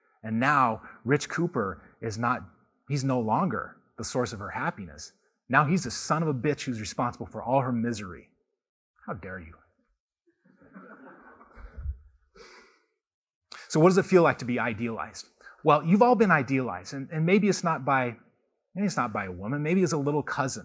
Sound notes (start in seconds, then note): 10.5 laughter